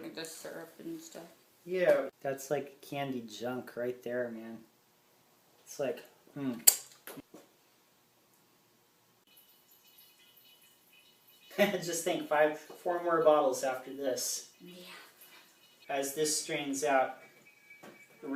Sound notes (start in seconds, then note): 11.3 laughs; 15.0 chuckles